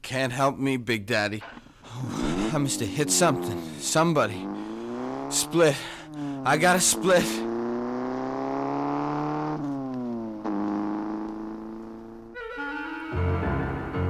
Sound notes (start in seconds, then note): 0.3 radio clicks; 8.0 engine revs